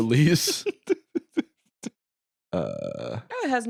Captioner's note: laughs